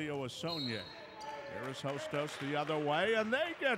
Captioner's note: whistle blows